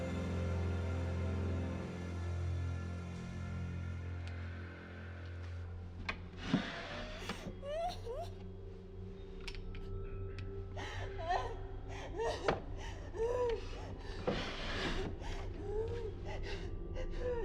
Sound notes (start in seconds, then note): 7.2 Maggie crying; 14.5 dramatic music